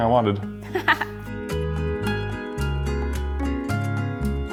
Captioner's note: laughing